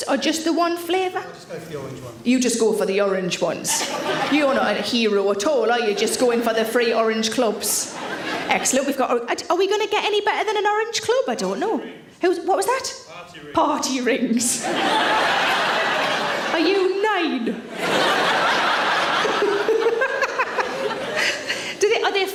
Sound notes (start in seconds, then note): 3.6 audience laughing; 12.4 man speaking; 14.7 chuckling; 15.7 audience laughing; 18.0 audience laughing; 19.7 laughing